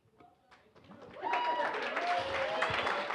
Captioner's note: applause